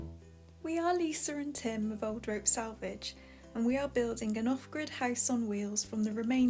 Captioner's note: voiceover